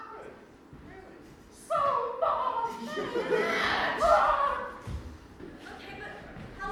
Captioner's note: screams